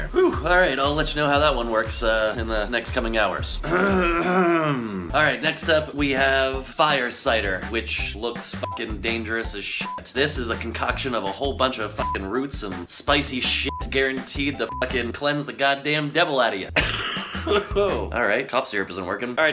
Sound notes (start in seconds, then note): 3.6 coughing; 16.7 coughing